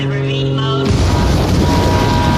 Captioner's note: alarms comes from Bargie